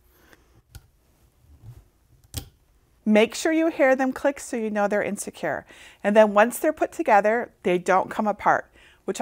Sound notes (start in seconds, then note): 2.2 lamp clicks